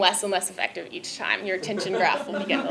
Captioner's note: laugh